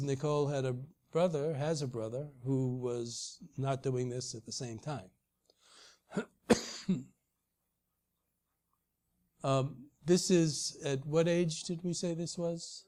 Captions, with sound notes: Nicole has a brother who was not that we miss at the same time. [COUGH] This is at what age did we say this was?